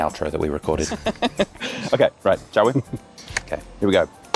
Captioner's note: laughing; clap